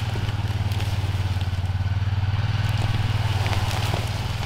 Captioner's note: engine humming